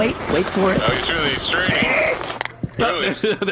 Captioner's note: Flix’s finger cracks